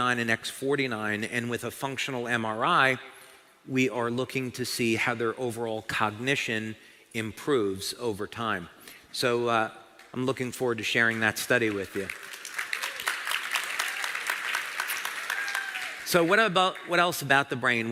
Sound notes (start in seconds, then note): 11.5 เสียงปรบมือ